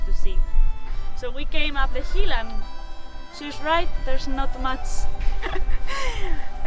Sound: chuckles

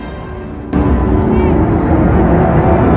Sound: people whispering

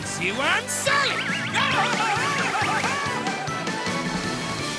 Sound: screaming

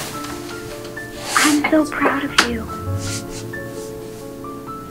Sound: whispering

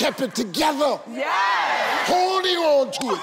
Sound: audience cheering

